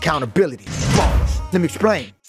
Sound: bars slamming

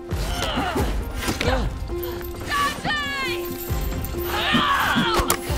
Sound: commotion from the prisoners

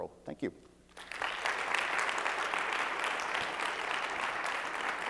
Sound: audience clapping loudly

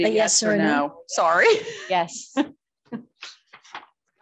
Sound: chuckling

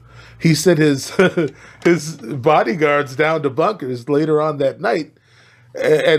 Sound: laughs

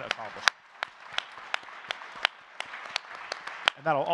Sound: audience cheering and clapping

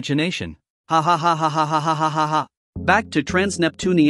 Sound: AI laughing

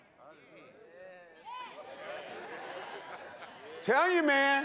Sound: congregation praising

